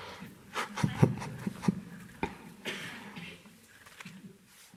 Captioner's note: Eckhart chuckles